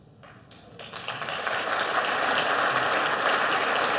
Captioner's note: audience applauds